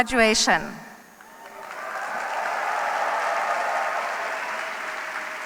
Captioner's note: cheers, applause